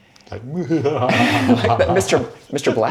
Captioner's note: evil laugh